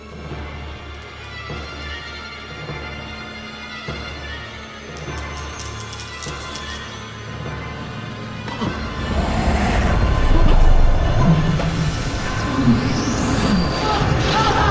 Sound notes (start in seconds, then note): 0.2 suspenseful orchestral music; 5.4 gasps; 5.4 marbles rattling; 10.6 ominous orchestral music